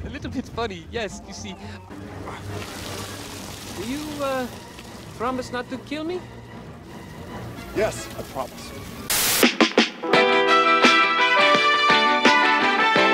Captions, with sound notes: - It's a little bit funny, yes you see. (ants crawl) Do you promise not to kill me? - Yes, I promise. (static) (groovy funk music)